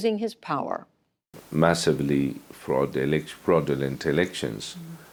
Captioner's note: through translator